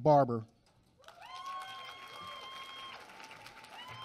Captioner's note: applause